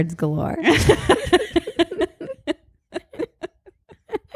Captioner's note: both laugh